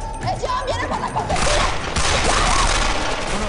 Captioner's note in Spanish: Gunshots